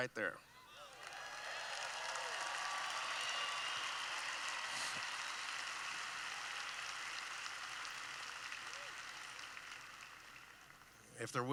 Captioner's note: cheering